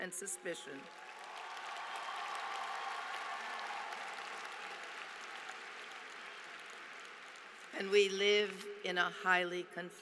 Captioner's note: applause